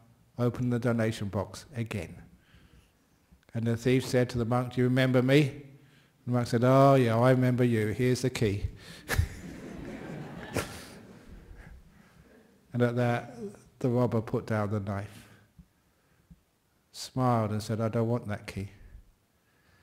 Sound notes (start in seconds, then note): 5.9 less aggressively; 9.0 laughter